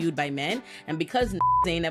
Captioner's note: beep